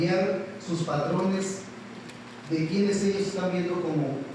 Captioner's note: speaking Spanish